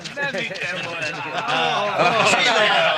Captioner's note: Brothers laughing